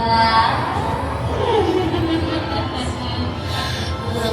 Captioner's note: bride cackling